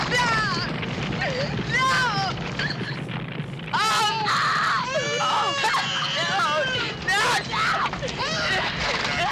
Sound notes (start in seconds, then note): 3.9 woman screaming, baby crying